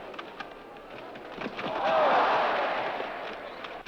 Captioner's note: shouts of olé!